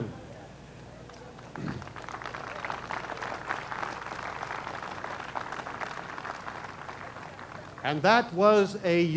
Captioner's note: applause